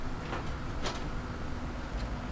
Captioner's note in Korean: 공사 소리